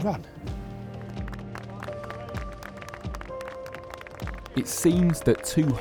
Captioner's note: clapping